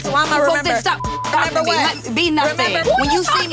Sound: beep

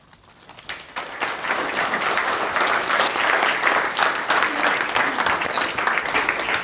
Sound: audience applauding

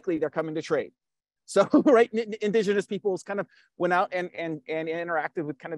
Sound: laughs

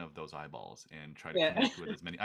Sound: laughs

